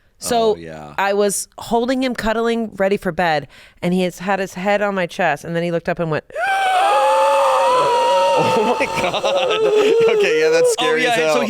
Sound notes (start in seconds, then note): 6.8 gasping